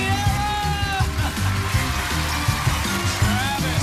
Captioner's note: laughs